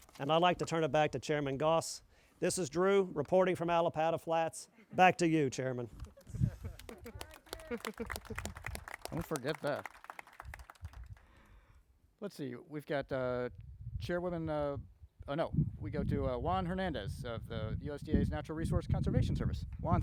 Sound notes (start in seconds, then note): 6.7 crowd applauding